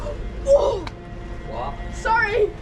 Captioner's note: worried gasp